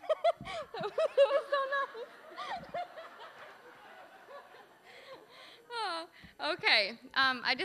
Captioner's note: audience laughing; laughing